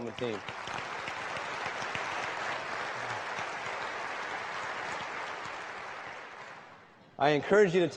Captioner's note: applause